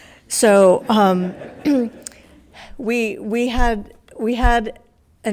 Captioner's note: attendees laughs